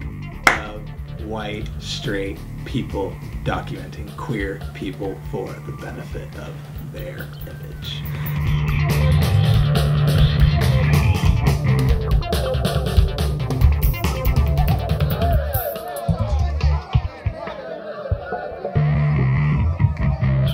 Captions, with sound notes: of white straight people documenting queer people for the benefit of their image. (upbeat music) (distant murmurs)